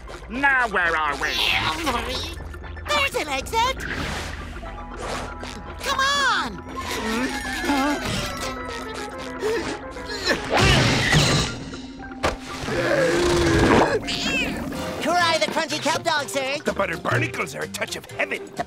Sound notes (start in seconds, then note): 6.9 moaning; 10.0 grunting